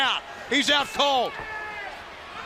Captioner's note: crowd chatter